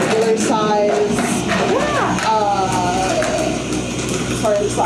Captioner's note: grinding coffee